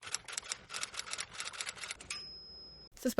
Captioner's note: tip tap typing....dig!